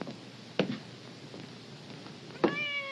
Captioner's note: cat meows